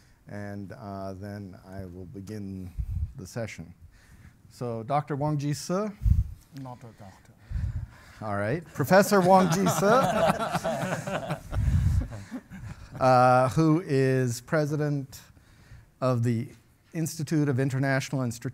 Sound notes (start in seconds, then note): 10.7 panel members laugh